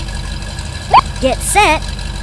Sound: beep

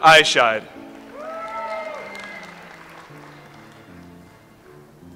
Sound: audience applauds

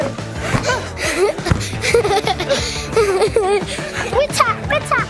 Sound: laughs; laughing

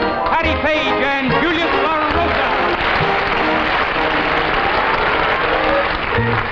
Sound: applause

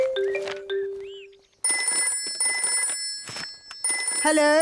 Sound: phone ringing

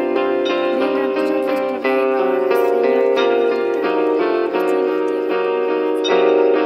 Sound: voces

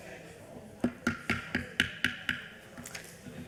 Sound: members chattering; gavel tapping; members chattering

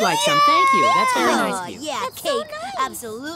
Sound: cheering

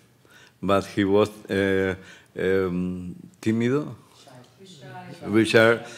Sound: speaking Spanish; indistinct audience murmurs

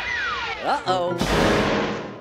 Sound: smash

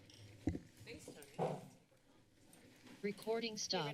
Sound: chatter; machine voice

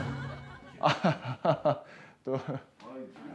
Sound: laughing

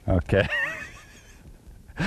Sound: laughter

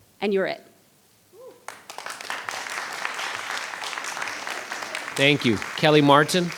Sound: audience applauding

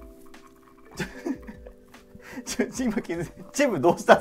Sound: laughing

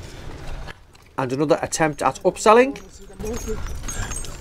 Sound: voiceover

